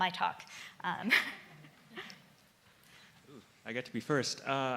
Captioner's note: laughing